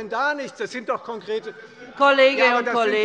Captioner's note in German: Fortgesetzte Zurufe von der CDU